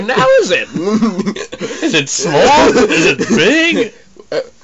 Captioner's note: texan accent